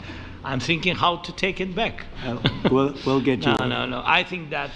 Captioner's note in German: lacht; lacht